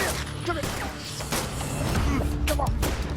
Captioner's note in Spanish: Disparos